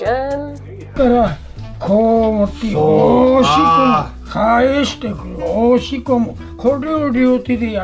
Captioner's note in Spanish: Sensei da mas instrucciones en japones